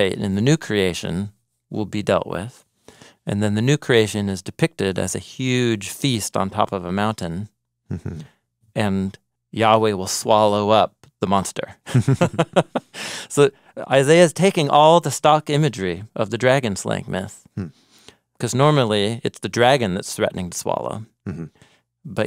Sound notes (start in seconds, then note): 11.9 laughing